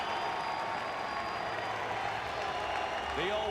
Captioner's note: applause